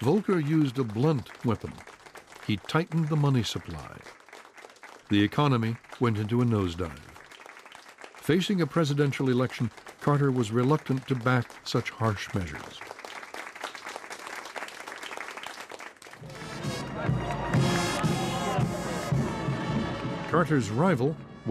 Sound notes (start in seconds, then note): 13.3 applause; 16.2 marching bandplaying